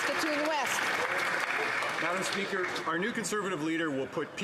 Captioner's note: applause